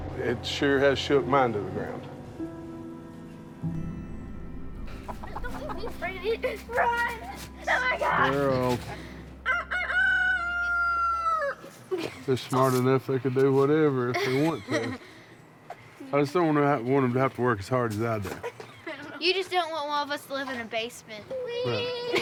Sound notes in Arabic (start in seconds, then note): 9.6 الفتيات يصرخن; 12.2 صياح الديك